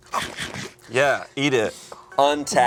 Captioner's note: chomping